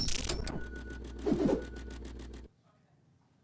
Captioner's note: swooshing